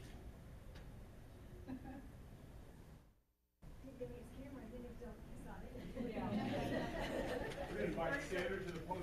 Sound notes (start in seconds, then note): 6.3 loud laughter